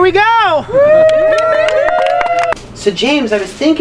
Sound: group cheers and applauds

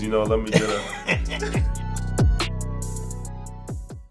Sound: Spike laughs

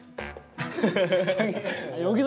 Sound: giggling over a ping-pong ball

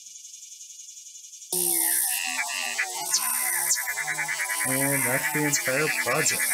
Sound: full rainforest-soundtrack returns

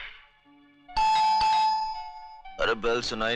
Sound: door Bell

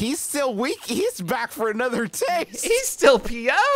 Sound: laughs

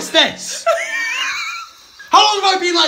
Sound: laughing

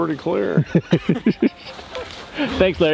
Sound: laughing

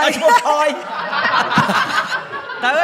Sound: laughter

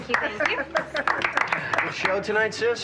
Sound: clapping

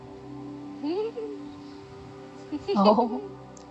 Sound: woman laughs

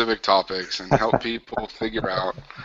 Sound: laughter

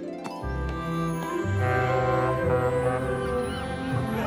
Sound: horn blowing

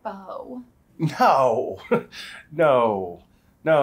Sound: chuckles

